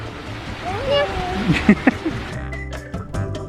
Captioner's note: laughing; bouncy music continues